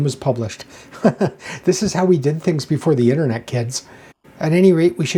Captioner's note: laughs